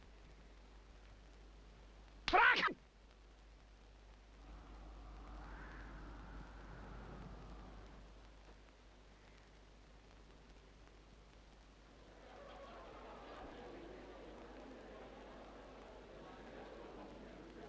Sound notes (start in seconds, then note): 4.3 wind howls softly; 12.0 distant chatter